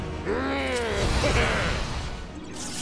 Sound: grumbling; giggles

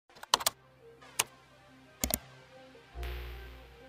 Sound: keyboard typing

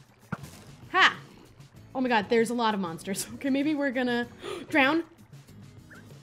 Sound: gasp

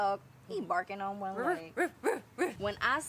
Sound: Kristy barks

